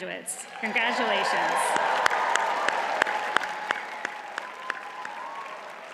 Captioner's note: audience cheers and applauds